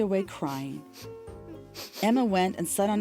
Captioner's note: crying and sniffling